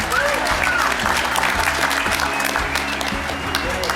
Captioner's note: audience claps